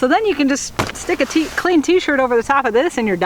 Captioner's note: slaps